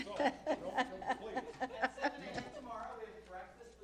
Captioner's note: laughing; all chattering